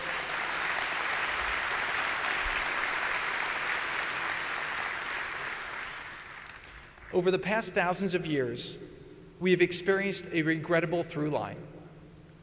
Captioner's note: applause